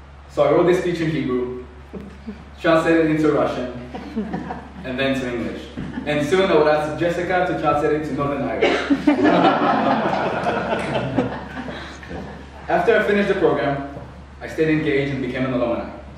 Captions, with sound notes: So I wrote this speech in Hebrew then translated it to Russian and then to English. Soon I will ask Jessica to translate it to Northern Irish. *Laughing* After I finished the program I stayed engaged and became an alumni